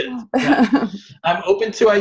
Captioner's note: chuckles